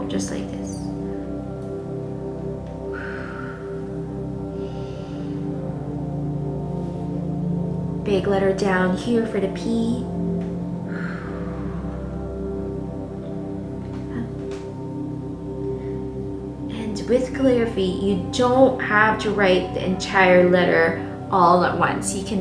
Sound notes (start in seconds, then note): 2.9 exhaling; 4.9 inhaling; 10.8 exhaling